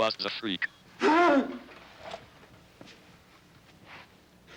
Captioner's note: Casey groans